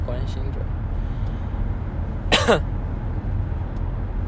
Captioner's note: cOugh